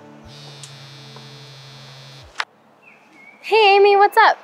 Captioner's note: cellphone buzzing